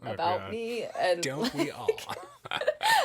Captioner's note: laughing